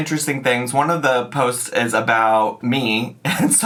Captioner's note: chuckles